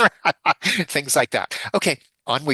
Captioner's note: laughs